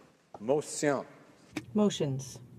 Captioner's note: speaking French